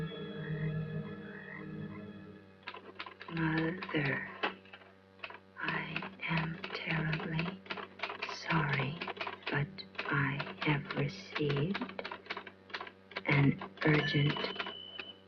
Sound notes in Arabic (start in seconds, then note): 2.5 صوت الآلة الكاتبة وصوت لويز